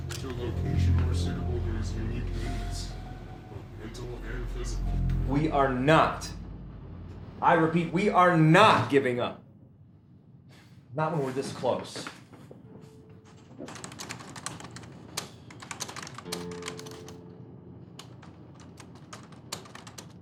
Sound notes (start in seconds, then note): 13.6 keys clicking; 14.0 gentle music